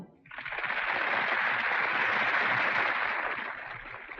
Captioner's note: audience applauding